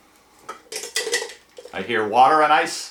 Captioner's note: rattling